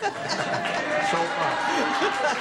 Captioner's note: laughter